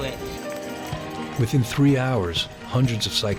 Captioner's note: voiceover